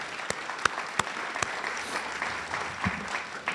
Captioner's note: audience applauds